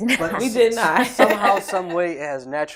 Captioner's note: laughter